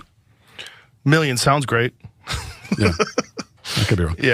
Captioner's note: laugh